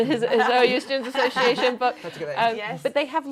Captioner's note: laughs